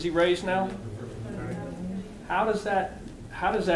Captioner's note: audience murmuring